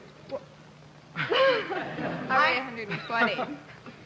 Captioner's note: laughing